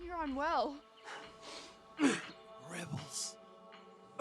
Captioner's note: coughing; hunter grunting